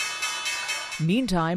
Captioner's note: bell ringing